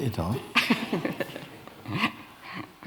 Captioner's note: laughter